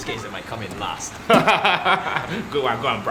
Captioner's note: laughs